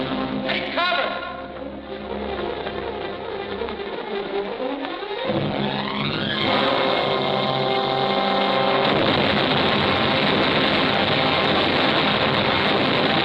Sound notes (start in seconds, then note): 8.0 dynamite exploding